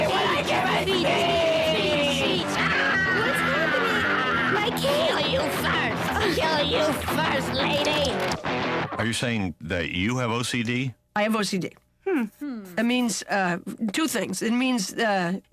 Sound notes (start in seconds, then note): 2.4 screams